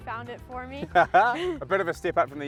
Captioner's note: both laugh